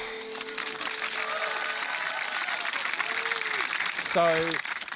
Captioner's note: applause